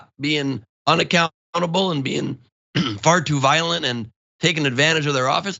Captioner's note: cough